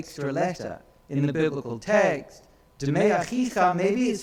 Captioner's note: speaks in foreign language